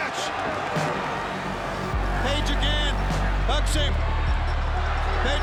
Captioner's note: applause